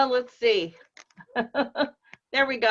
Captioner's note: laughs